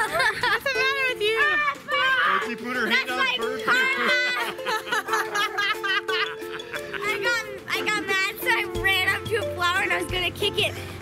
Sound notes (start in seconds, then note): 0.0 laughing; 4.6 yelling and laughing